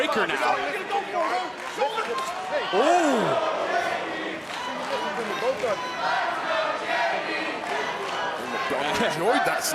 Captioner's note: applause